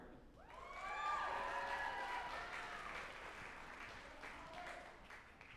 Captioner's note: group applauding and cheering